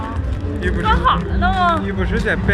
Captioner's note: in notheast dialect